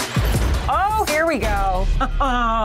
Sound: laughs

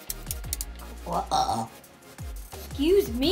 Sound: pieces clinks; child belches

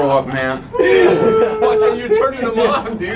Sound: person howling

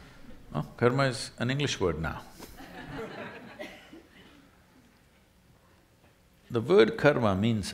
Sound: laughter

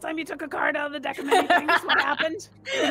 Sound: laughs

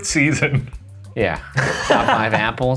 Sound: laughing

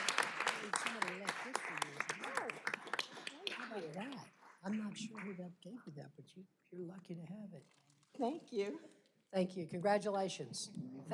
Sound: applause

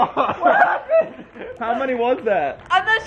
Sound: laughing

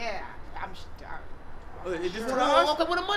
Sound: stammering

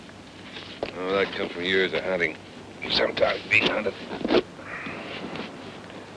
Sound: murmurs

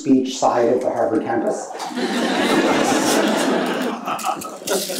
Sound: audience laughs

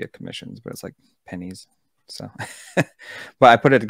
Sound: chuckles

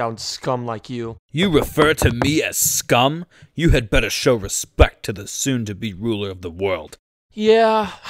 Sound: footsteps

